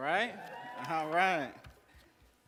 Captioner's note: cheers